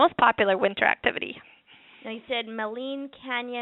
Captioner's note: pause